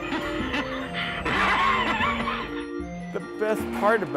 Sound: animatron laughing

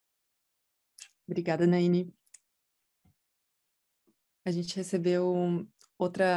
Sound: speaking in Portuguese

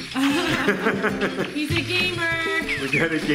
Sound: laughter

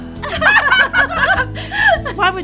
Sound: laughing

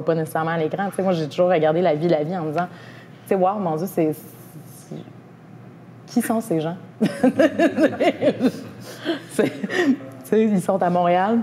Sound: laughs

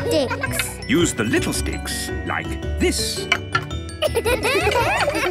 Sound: laughter

